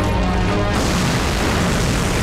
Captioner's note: Explosion